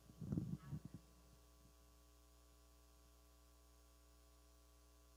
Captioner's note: person speaking away from mic